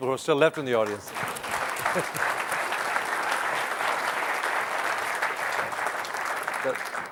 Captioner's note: applause